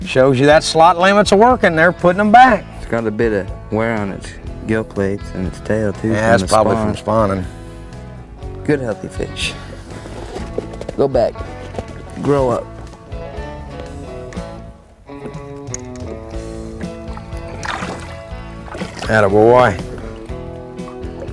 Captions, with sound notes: it shows you that slot limits is a working they are putting them back he is got a bit on it's gill plates and it's tail too Yeah that's probably from spawning good healthy fish go back, grow up [splash] That a boy